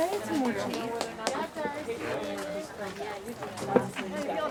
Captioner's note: none